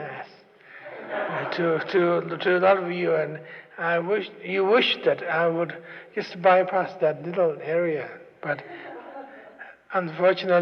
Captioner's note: laughter